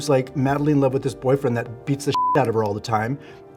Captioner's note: beep